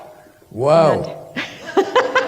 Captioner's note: laughter